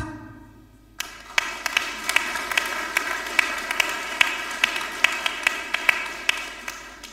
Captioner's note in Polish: oklaski